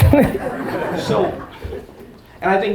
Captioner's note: audience laughter